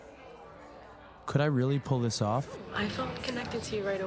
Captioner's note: 喋喋不休; chattering